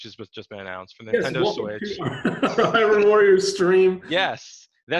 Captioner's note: laughing